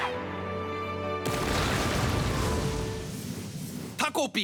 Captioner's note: sound of the ground cracking